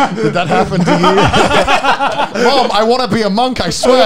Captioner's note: laughing